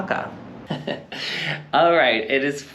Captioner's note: giggles again